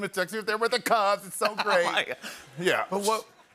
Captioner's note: laughter